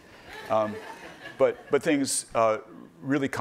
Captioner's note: laughing